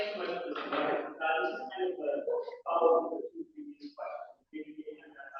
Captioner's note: background chatter